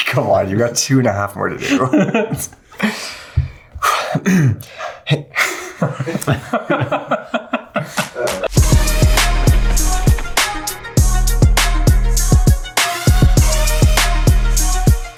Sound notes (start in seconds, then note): 1.6 laughing; 8.4 upbeat music